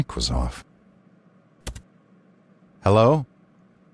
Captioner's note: keyboard click